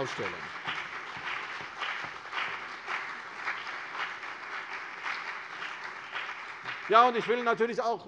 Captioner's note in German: Beifall CDU und BÜNDNIS 90/DIE GRÜNEN